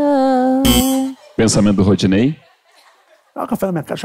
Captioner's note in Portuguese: campainha